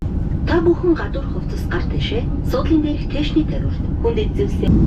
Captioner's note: in-flight announcement in Mongolian